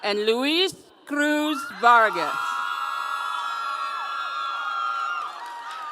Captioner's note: audience cheering